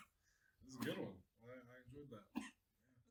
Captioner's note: coughing